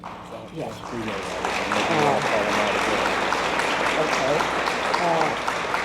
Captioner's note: applause drowns out speech; audience applauds